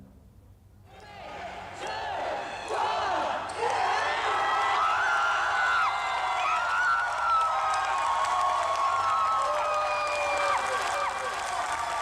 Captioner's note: cheering